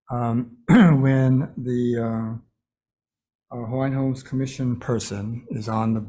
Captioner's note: clears throat